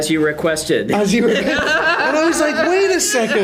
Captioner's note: Rian laughs